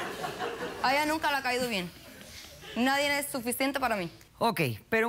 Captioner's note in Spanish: risas